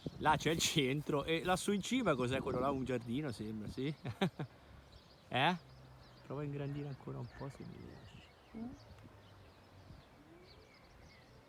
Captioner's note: laughter